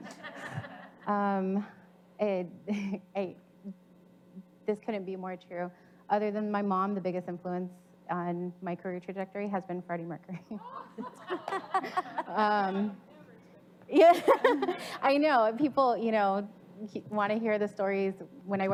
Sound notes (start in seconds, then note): 0.0 audience laughs; 2.5 chuckles; 10.6 audience laughs; 14.0 audience laughs